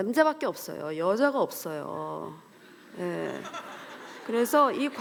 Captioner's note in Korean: 웃음